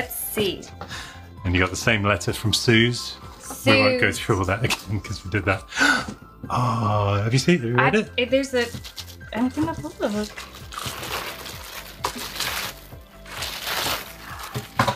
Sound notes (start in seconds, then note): 9.4 plastic rustles